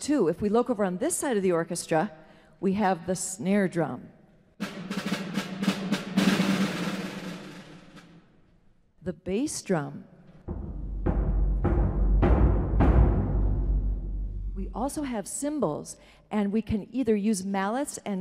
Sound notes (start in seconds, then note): 10.4 deep resonant sound